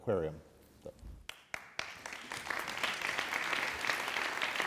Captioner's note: applause